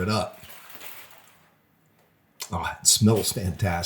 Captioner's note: foil rustling